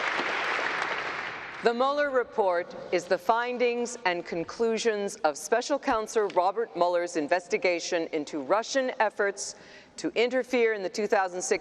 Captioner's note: applause